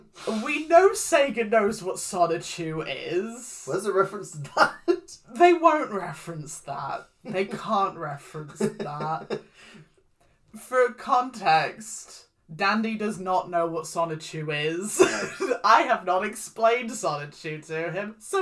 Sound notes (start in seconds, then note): 0.3 laughs in lack of knowledge; 8.4 giggling; 14.5 laughs